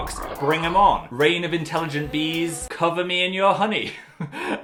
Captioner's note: laughs